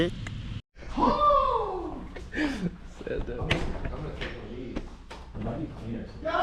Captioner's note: laughter